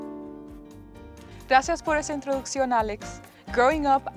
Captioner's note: speaking in Spanish